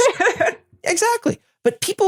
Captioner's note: laugh